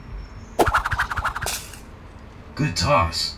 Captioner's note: boomerang flings into a tree